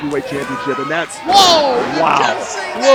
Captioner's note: exclaims